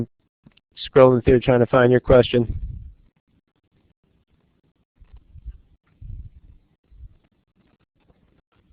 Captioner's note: pause